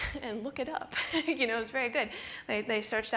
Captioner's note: laughs